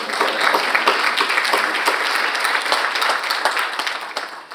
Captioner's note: all applauding